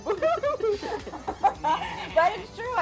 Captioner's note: all laughing